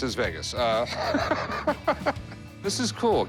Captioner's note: laughter